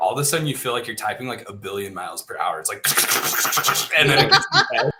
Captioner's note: hissing; laughter